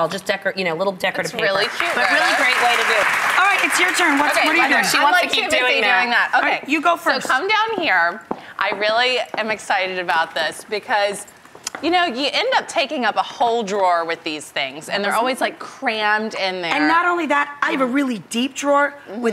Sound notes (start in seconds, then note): 1.5 applause